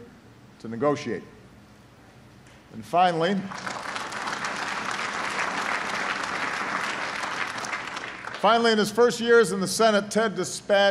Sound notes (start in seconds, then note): 1.2 applause